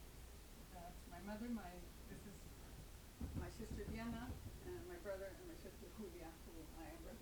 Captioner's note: speaking faintly